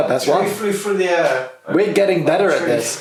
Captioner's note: murmurs